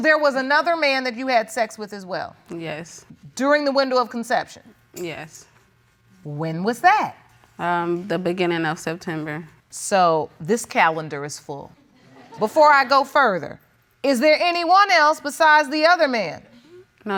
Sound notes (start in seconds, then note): 9.9 audience laughing